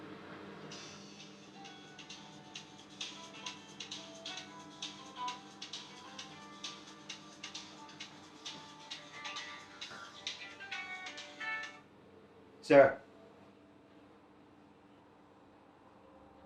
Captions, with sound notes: [Phone ringing] Sarah [Phone ringing] Sarah?